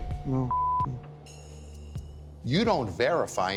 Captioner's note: beep